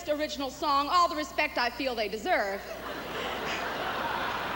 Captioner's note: laughter and plause